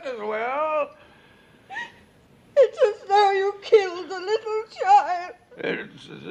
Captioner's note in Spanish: Sobs